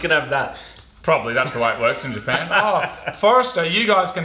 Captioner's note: laughs